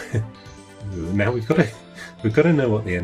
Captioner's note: laughing